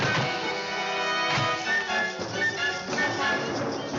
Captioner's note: bangs